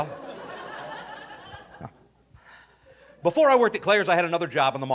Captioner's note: audience laughing